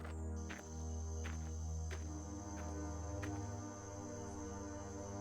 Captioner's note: insects chirping